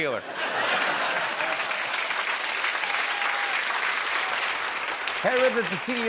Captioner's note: laughter, cheers, applause